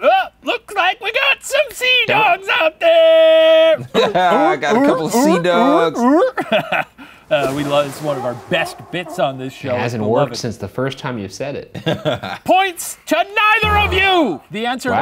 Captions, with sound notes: - Looks like we got some C-dogs out there. (making seadog sounds) (laughing) - We love it. It's one of our best bits on this show. - It hasn't worked since the first time you said it. (laughing) - Points to neither of you!